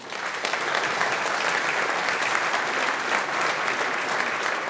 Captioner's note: audience applauding